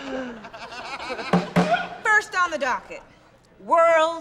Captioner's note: laughter; bangs gavel